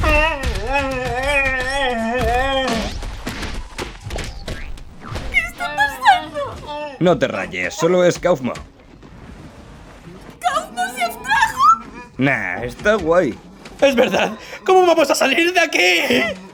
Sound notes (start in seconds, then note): 0.0 Gloink Queen groaning; 2.6 boink!; 2.6 bonk!; 2.6 sproing!